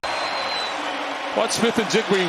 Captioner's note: cheers and applause